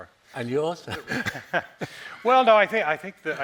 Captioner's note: moderator laughing